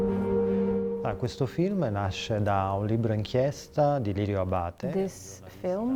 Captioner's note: speaks in Italian